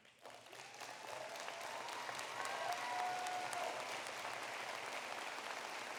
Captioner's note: applause